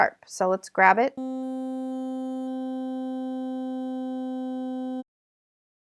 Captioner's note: electronic buzzing